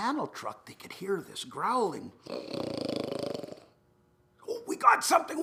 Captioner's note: snoring